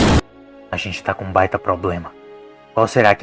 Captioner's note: explosions